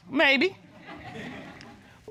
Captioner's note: audience chuckling